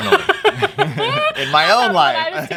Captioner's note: laughs